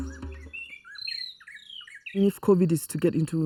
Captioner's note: rythmic music; birds chirping